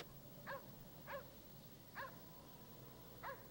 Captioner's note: dog barking